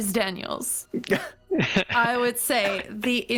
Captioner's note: incredulous laugh